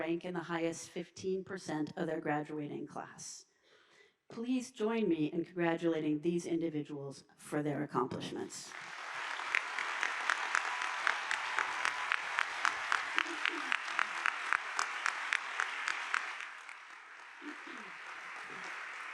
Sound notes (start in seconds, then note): 8.9 audience applauding